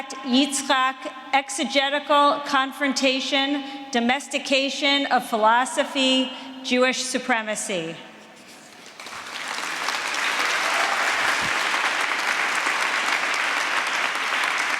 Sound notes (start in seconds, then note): 8.9 applause